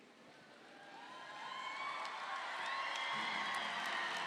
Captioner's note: audience applauding